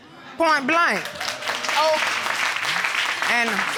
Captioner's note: audience clapping